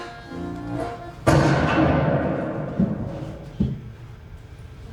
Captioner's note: gun shot